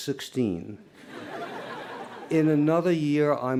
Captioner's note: laughter